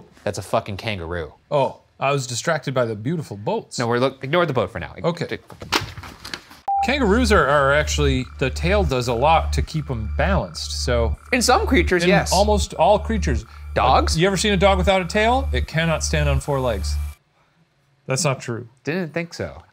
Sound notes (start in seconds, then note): 5.6 paper crinkling; 6.0 film beeping